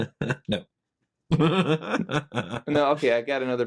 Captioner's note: laughing